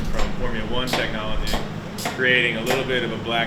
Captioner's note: tools clicking